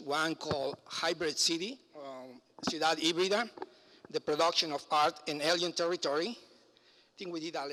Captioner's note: foreign language